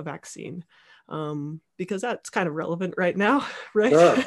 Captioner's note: laughing